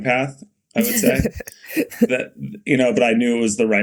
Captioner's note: Mikaela laughing